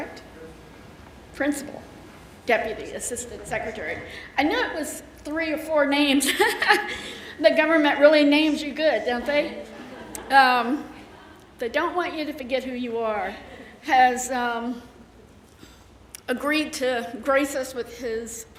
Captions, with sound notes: Principal Deputy Assistant Secretary. I knew it was three or four names. (chuckles) The government really names you good, don't they? (audience laughing) They don't want you to forget who you are. Has agreed to grace us with his presence this afternoon,